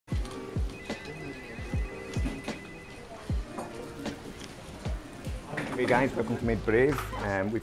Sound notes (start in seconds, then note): 0.1 mellow jazz music; 0.4 telephone ringing